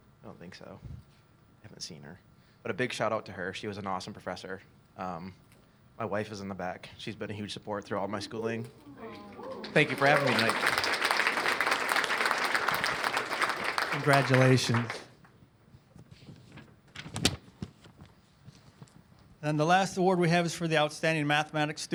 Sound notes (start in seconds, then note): 11.5 applause